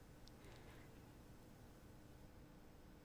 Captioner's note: none